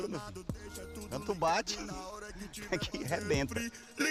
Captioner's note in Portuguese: risada